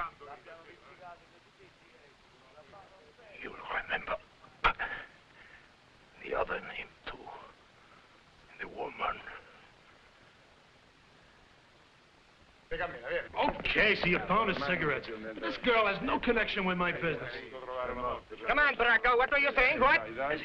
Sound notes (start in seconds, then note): 4.8 groans; 12.6 officers conversing in foreign language